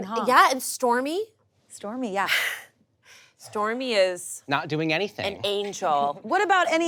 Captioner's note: none